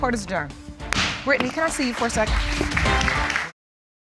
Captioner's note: applause